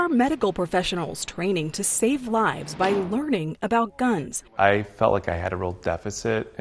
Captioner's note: gunshot